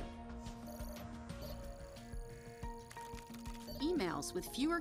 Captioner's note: keyboard clicking; computer trilling